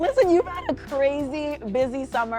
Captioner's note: chuckling